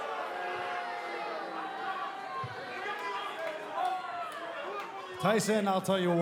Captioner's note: cheers & boos